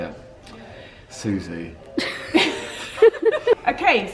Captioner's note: laughs